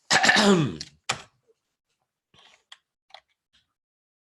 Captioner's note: clearing throat